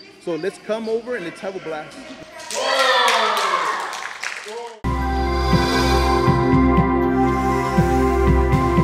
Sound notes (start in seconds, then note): 2.4 cheering; 5.0 chime music